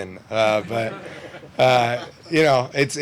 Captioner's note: crowd laughs